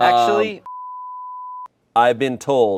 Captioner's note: beep